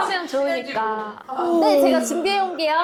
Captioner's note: yawning sound